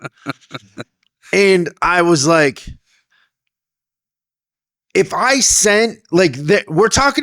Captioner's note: laughing